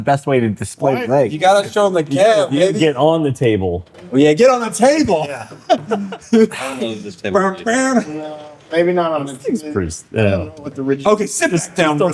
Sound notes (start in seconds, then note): 7.8 laughter